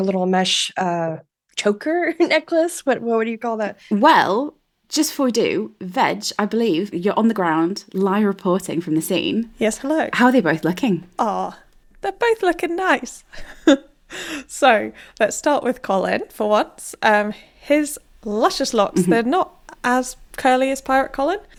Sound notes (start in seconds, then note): 13.3 laughing